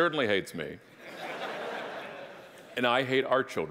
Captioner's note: audience laughing